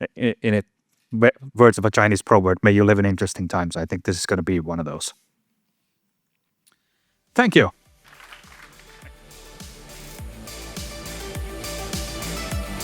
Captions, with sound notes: In words of a Chinese proverb, may you live in interesting times. I think this is going to be one of those. Thank you. [applause] [outro music]